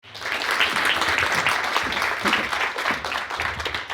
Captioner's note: audience applauding